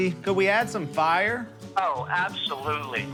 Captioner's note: on phone